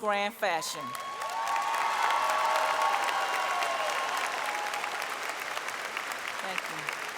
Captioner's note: applause